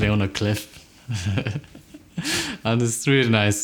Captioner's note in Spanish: Risas